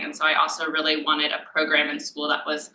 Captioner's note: none